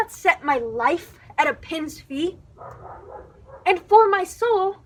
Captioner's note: dog barking